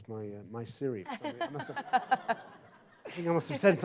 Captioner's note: audience laughs